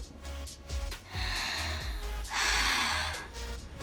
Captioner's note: sighing